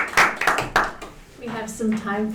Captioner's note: applause